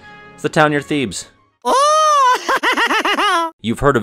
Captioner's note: Stitch laughter